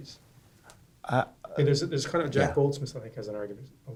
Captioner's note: voiceover